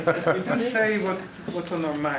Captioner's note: laughing